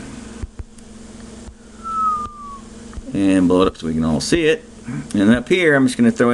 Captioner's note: whistles